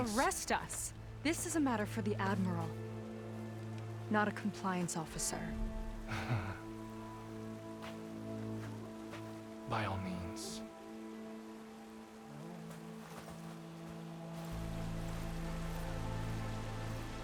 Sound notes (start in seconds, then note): 6.1 laugh